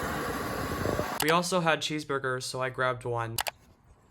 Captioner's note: voiceover